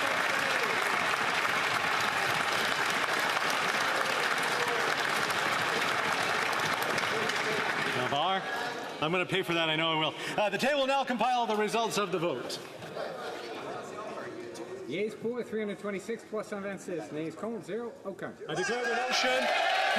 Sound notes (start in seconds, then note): 4.0 applause